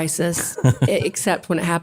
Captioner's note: laugh